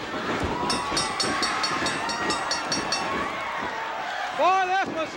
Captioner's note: bell dinging